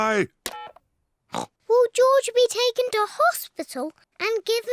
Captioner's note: oinks